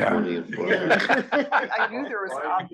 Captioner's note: laugh